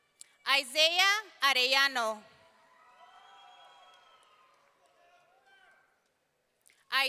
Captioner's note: audience cheering